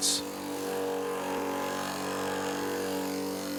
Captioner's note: saw noise